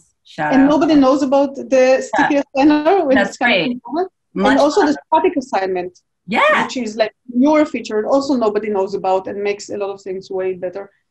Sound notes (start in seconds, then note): 3.5 speaking faintly